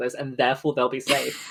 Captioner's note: laughs